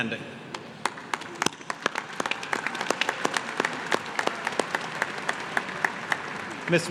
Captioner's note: applause